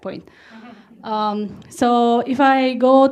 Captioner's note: audience laughs